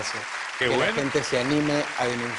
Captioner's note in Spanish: Aplausos